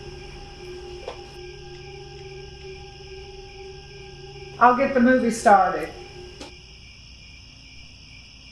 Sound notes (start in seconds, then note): 0.0 eerie music; 6.1 crickets